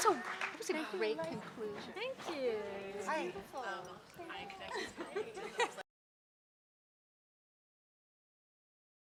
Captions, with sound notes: - What a great conclusion. - Thank you. - Hi. (audience chattering)